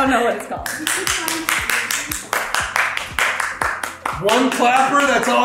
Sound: girls clapping

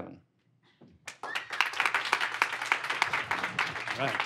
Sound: applause

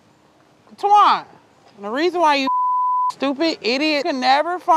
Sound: beep

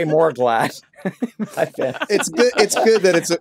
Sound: all laughing

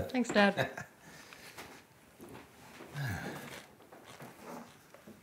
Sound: Frank chuckles

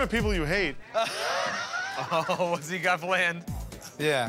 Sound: Joe laughs

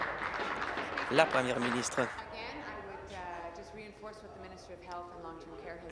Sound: applause

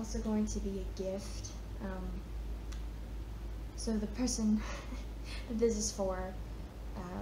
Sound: chuckles

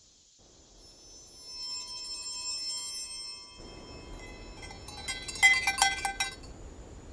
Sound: bell Chimes

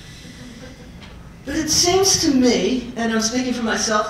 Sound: laugh

